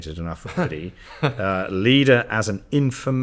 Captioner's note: chuckles